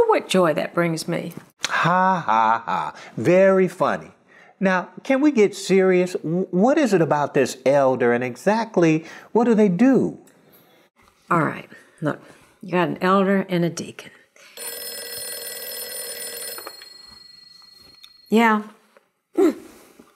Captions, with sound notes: Ha ha ha. Very funny. Now, can we get serious? W-what is it about this elder, and exactly what do they do? All right. Look. You got an elder and a deacon. (telephone ringing). Yeah. Oh!